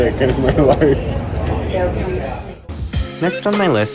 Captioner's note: laughing